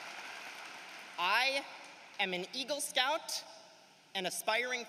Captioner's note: cheering and applause